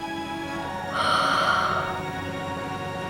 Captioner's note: gasps